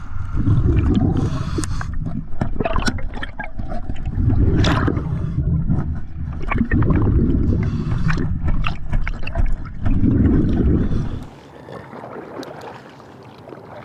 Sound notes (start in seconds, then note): 2.5 bubbles bubbling